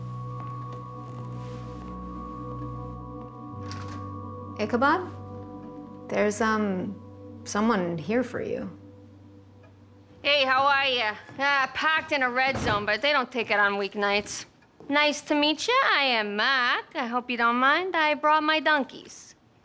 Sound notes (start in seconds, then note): 0.1 mysterious music; 10.0 thick Boston accent